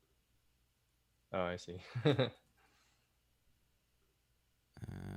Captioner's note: laughs